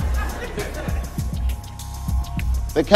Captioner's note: γέλια